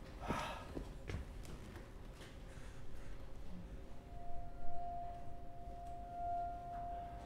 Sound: footsteps; sighs; whining noise

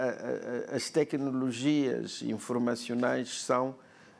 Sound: speaking portuguese

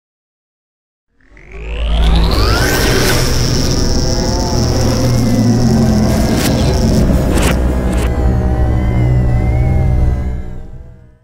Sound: sound of science fiction

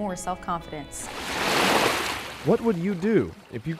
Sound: waves crashing on shore

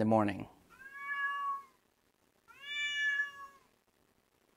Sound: Teddy meowing

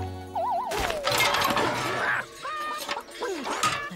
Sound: crash!

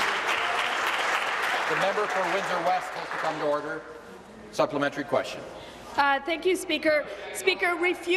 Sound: applause

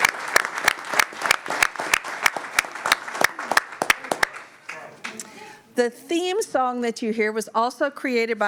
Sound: applause

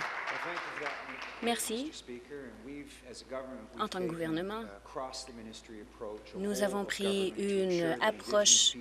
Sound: applause

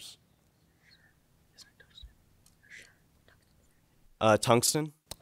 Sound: students whispering

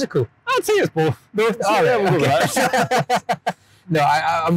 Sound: both laugh

